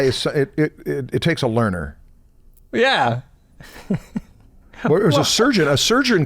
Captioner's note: chuckles